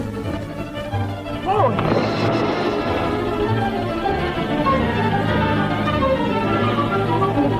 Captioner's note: suspenseful orchestral music; water splashing